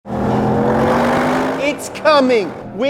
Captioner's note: car engine revving